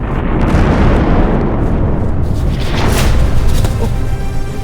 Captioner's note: loud crash